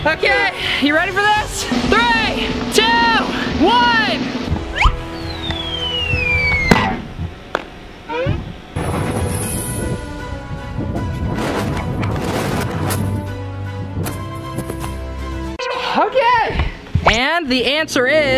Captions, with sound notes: Okay, You ready for this? 3, 2, 1. (contraption drops) (upbeat music) Okay. And the answer is